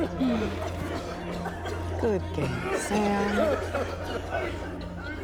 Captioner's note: sighs